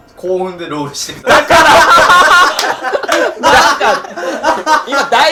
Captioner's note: laughing